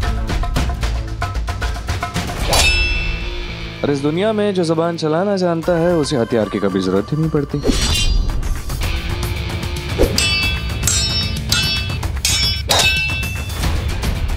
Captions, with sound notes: [sword whooshes] In this world, the one who can use their words wisely does not need a weapon. [metal clanks]